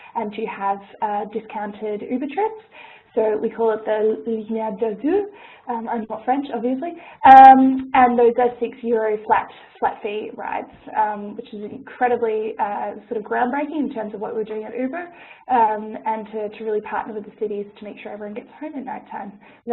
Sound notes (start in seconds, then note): 4.3 speaking French